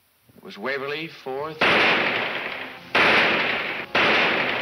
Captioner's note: gunshots banging